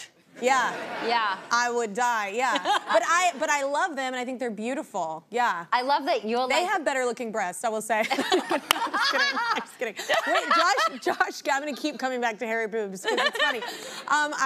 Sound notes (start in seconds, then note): 0.5 audience laughs; 2.5 laughs; 8.0 laughing; 8.2 laughs